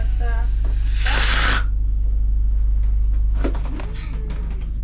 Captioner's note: balloon deflating